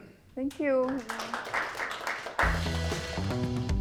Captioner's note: audience applauding; light upbeat music